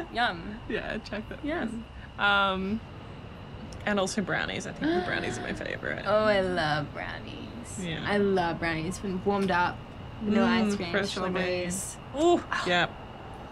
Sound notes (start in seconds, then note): 4.0 Beth gasping